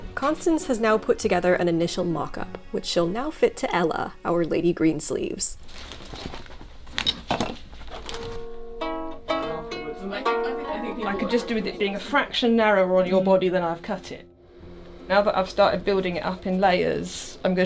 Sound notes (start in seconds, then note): 7.3 scissors thudding; 8.4 harp strumming